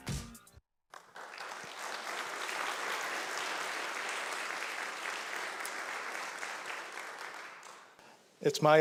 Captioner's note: applause